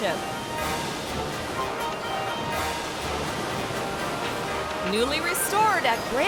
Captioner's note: proud music continues; water sloshing